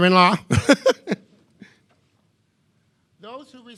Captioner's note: laughing